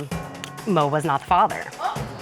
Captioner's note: clicks tongue